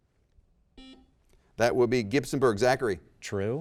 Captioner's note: buzzer rings